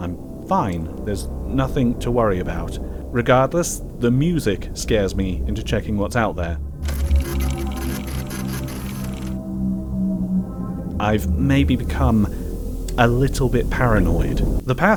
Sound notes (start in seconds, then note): 6.8 photo station clicks and whirrs